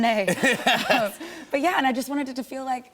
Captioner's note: laughter